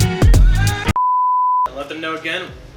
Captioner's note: beep